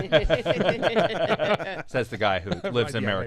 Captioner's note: laughing